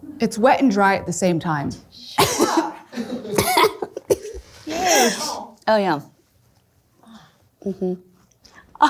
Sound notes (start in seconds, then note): 2.1 coughing